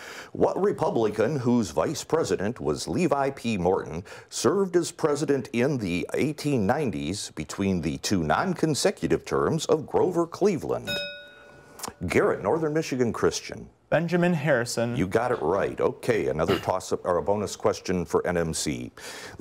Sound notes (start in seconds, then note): 10.8 bell rings